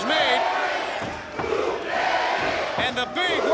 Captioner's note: crowd chants "Whoop, there it is"